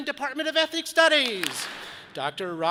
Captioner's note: audience claps